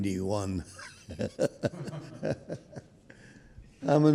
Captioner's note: laughing